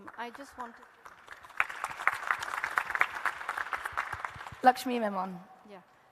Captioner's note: audience and panel applauding